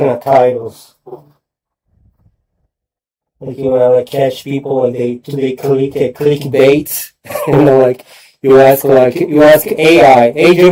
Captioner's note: laughter